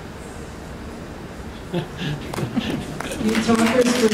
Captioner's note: laughter and applause